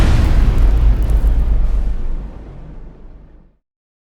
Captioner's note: impact